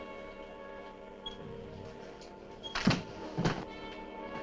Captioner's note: squeaking